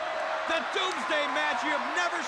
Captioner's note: crowd cheering